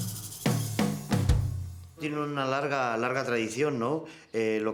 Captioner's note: speaks in spanish